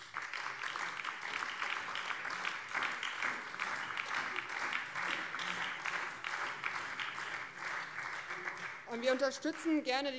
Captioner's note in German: Beifall BÜNDNIS 90/DIE GRÜNEN, vereinzelt SPD und Freie Demokraten